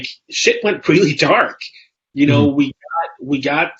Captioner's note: laughs